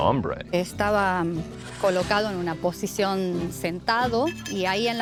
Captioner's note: speaking Spanish